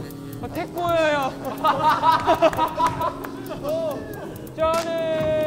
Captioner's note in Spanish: Jajaja